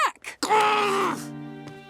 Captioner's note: groaning